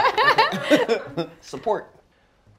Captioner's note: laughter